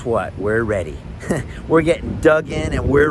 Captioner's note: chuckles